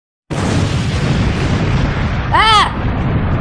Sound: volcano Erupting

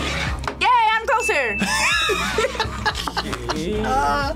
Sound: laughs

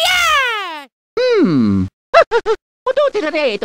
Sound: chuckle

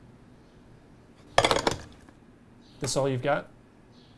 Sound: clunking

